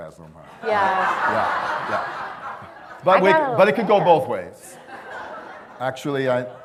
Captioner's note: laughter; laughter